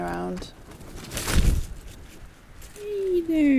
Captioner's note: gust of wind